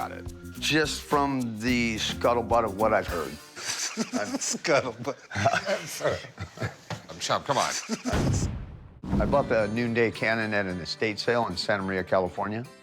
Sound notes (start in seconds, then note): 3.6 laughing; 8.1 cannon thunders